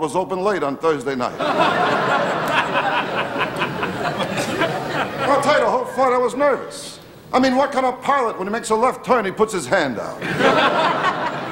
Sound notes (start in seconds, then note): 1.2 audience laughing